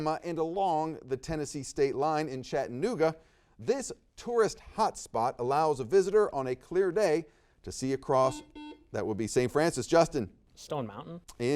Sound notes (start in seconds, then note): 8.2 buzzer beeps